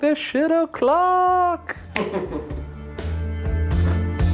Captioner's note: laughing